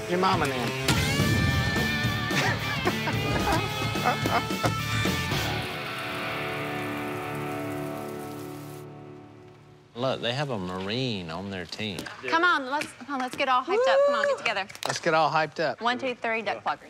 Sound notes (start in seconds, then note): 2.2 laughing